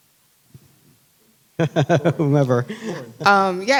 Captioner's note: laughing